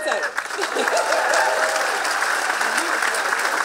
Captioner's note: laughing